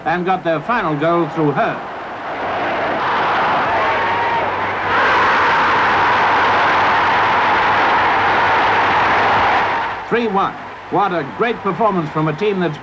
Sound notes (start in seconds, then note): 5.2 crowd roaring